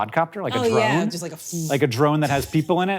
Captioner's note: imitating drone humming